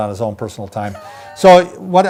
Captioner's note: laughing